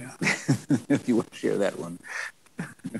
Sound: chuckles

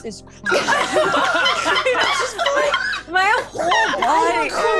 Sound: all laughing

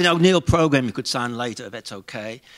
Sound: none

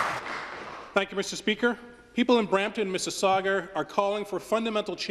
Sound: applause

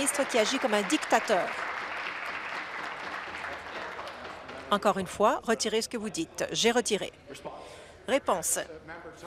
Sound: applause

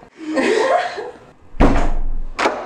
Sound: loughing

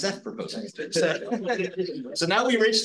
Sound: instructor laughs

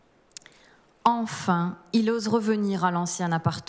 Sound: speaking french

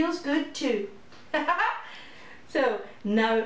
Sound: laughter

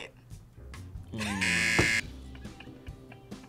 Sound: buzzer rings

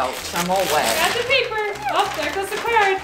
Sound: paper shredding

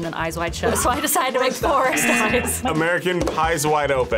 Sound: laughs

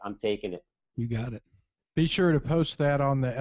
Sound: voiceover

